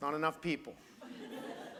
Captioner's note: laughter